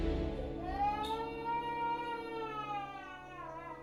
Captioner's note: animation sound: baby crying